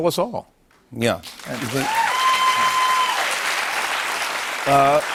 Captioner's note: cheers and applause